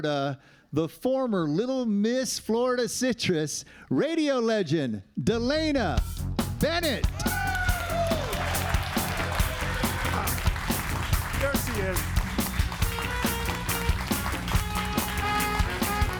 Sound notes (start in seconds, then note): 6.6 upbeat soft rock music; 7.0 audience cheering and applauding